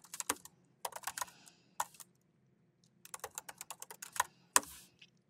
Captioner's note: keyboard clacking